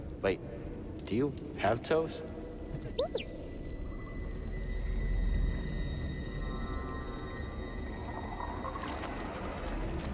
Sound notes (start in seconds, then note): 3.0 boo-boo-beep